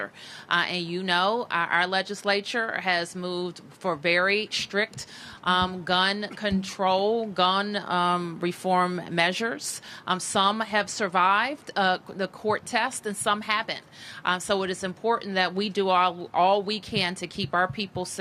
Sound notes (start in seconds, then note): none